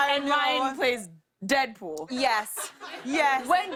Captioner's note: laughter